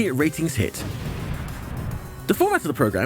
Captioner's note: sound: Kaboom!